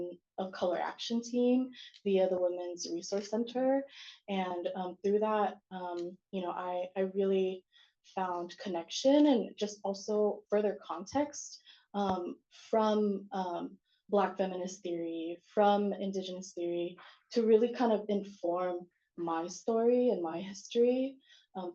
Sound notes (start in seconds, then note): none